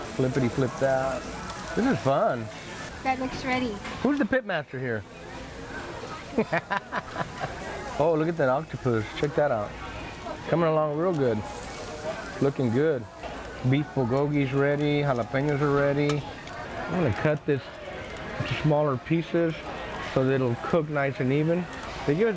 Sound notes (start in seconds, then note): 0.0 food sizzling; 6.8 person chuckling